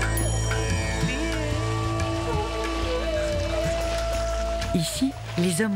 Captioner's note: applause